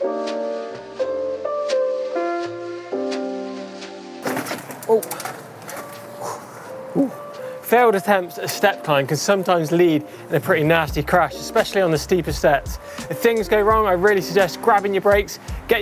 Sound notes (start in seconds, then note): 4.2 bike wheels whirring; 6.2 exhaling sharply